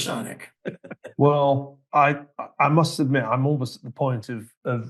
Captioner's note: laugh